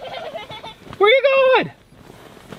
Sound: giggling

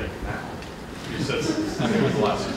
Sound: audience chuckling

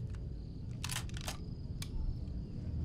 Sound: gun cocking

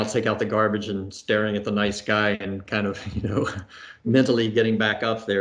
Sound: laughs

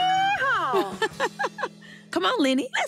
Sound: chuckles

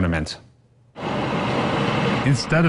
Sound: nat sound--bus arriving

